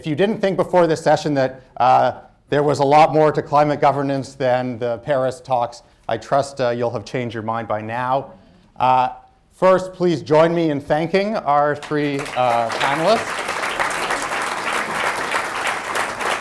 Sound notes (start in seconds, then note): 11.8 applause; 13.2 laughs